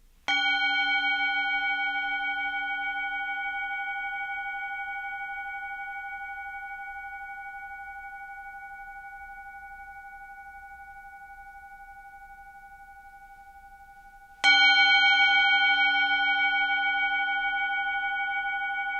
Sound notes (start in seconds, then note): 0.7 bell toned